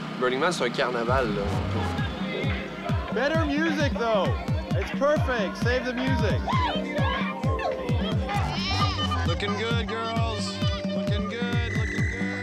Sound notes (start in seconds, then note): 0.1 techno music; 5.8 women yelling